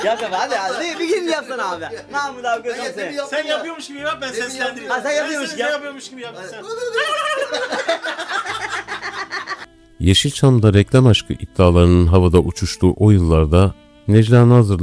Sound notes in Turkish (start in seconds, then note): 6.6 kahkaha